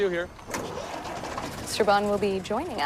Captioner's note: engine starts